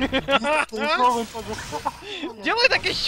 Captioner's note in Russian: Еиglіsн again